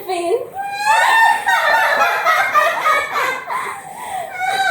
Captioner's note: they laugh